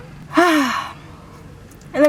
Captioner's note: humming; sighing